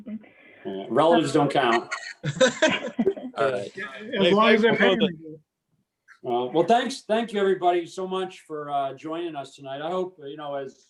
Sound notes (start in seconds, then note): 1.7 chuckling